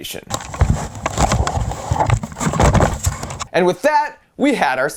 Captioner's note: shuffling noises